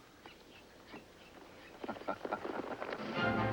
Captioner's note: chuckling